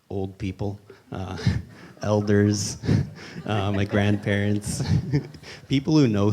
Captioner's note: laughs